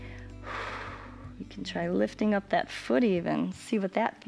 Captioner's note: exhales